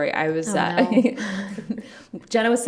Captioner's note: both laugh